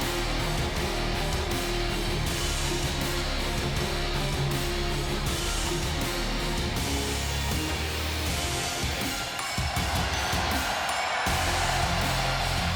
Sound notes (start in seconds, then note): 9.2 crowd cheers